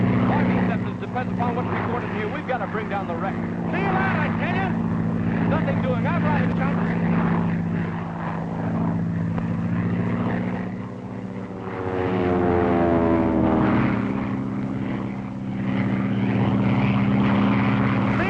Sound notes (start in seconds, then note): 15.2 plane rumbles